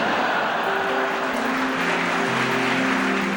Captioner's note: laughter; applause